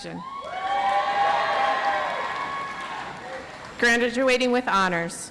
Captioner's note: audience applauds